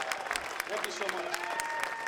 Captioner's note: audience applauding